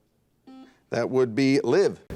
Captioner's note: buzzer dings